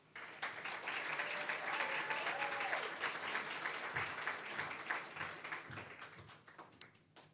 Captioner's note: applause